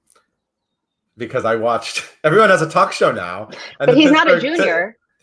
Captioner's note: laughs